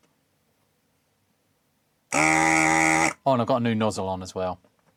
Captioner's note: buzzer